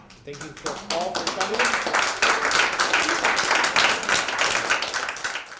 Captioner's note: applause